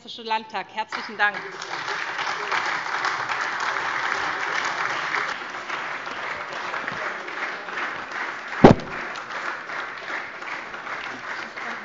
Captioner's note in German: Beifall SPD, AfD, Freie Demokraten und DIE LINKE